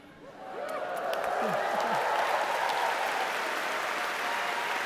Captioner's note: audience applauding